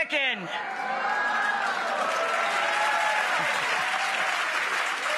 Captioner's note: crowd cheering and applauding